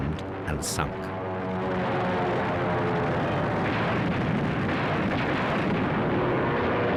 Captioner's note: plane engine roars